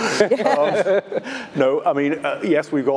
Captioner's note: panelists laughing